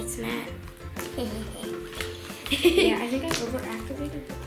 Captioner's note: laughter